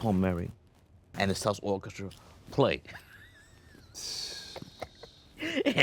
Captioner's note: laughs